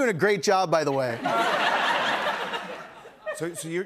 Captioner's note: laughter